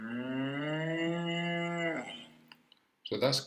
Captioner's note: cow sound